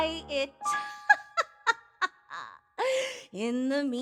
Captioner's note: laughing